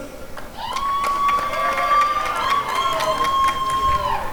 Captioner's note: applause and cheering